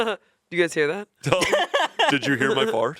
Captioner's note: laughs